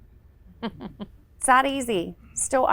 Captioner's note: laughs